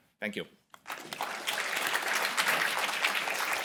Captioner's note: applause